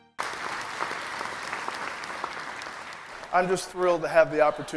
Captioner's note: applause